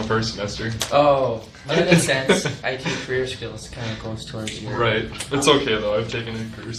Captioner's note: chuckles